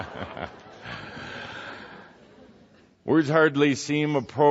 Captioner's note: laughter